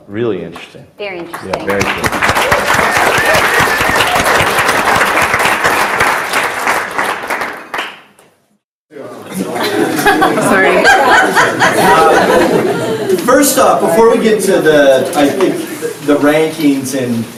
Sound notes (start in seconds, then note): 1.2 audience applauds; 9.3 everyone laughs